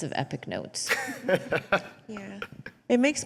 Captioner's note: laughs